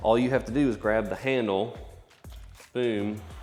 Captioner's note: slap